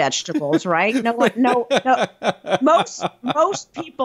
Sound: laughs

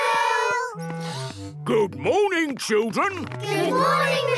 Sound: sniffs

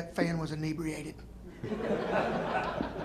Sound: laughter

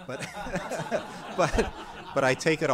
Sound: laughter

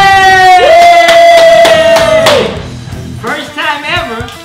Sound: clapping

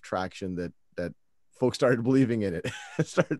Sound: laughs

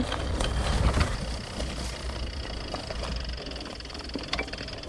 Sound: bike whirring

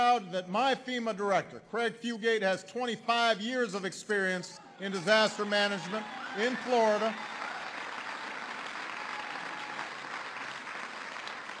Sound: applause

